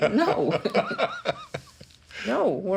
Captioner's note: laughter